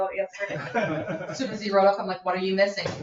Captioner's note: people chuckle